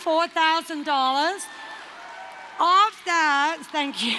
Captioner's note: applause